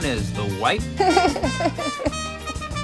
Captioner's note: laughing; jaunty music